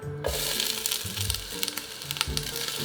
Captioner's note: sizzling